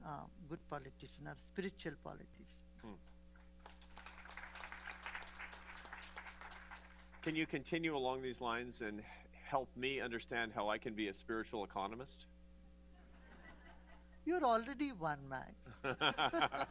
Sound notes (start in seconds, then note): 3.4 applause; 13.0 laughter; 15.7 laughter